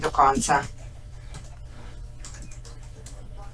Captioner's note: sound of typing